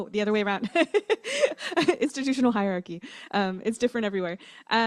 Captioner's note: laughter